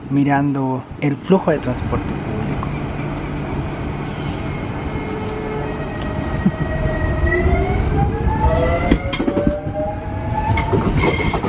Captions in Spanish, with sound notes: mirando el flujo del transporte público (sonido de los trenes en Estación Central)